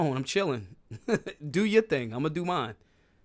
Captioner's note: laughs